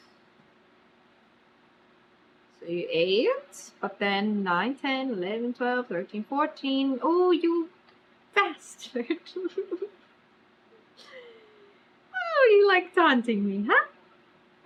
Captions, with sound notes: SO YOU EIGHT BUT THEN NINE TEN 11 12 13 14 OH YOU BASTARD [LAUGHS] OH YOU LIKE TAUNTING ME HUH